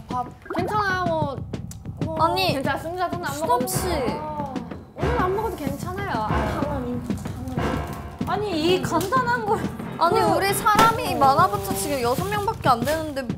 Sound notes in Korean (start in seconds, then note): 6.5 덜덜덜